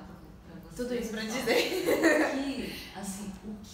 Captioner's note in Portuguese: risos